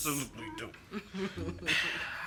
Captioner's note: Colleen chuckles